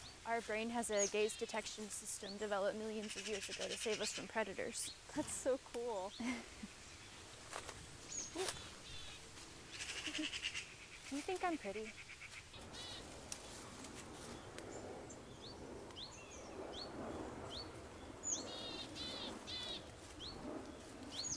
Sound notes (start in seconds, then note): 7.5 birds chirp; 7.5 leaves crunch; 14.1 birds chirp; 14.1 wind blows